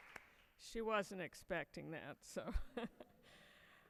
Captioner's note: audience applauds; laughs